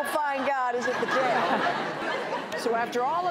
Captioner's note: audience laughing